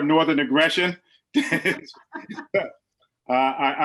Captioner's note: laughs loudly